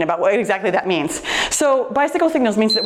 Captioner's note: timer beeps